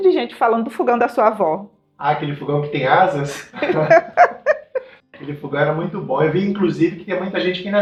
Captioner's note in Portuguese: risadas